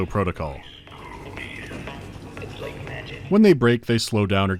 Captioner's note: vending machine quietly plays advert slogans